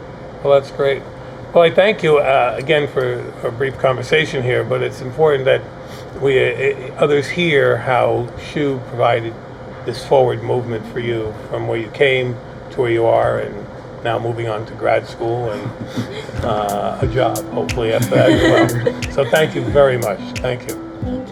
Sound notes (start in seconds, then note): 17.9 all laughing